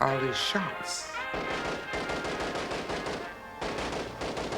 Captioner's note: gunfire